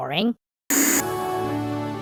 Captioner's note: TV static